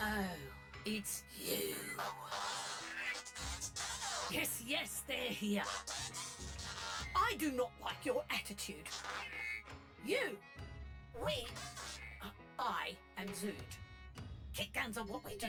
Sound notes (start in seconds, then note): 1.8 impatient chatter; 5.2 indignant blatting chatter; 10.1 static chatter